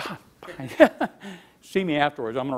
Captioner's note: laughs